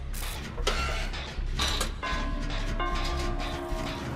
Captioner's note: bell chiming